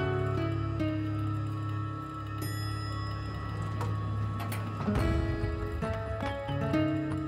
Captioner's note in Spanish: timbre del ascensor